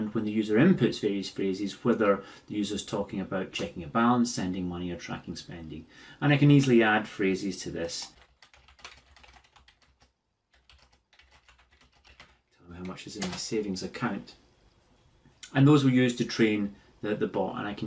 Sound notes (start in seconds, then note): 10.9 typing sounds